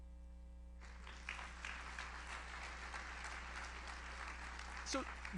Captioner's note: audience applauds